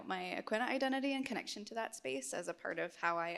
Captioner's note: none